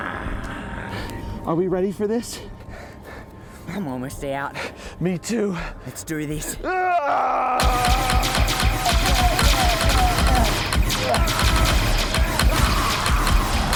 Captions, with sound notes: Are we ready for this? I'm almost out. Me too. Let's do this. [gunfire]